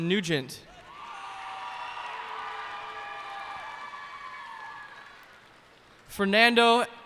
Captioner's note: cheers and applause